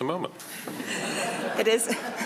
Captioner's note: all laugh